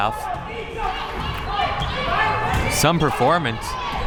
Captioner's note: crowd members shouting